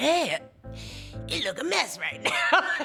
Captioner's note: laughs